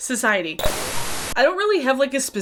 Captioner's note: tv static buzzing